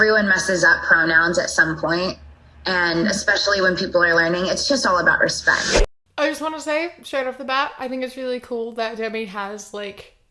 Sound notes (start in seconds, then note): none